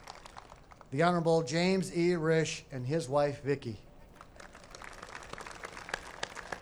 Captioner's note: applause